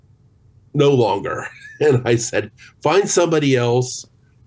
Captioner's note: chuckles